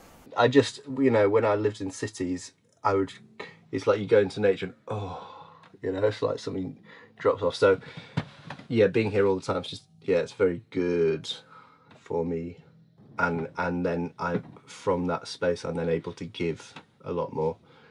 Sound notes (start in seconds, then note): 4.8 sighs